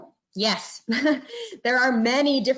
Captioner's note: chuckling